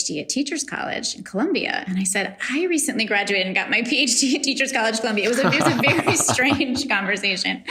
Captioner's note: laughs